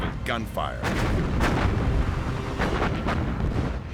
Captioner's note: gunfire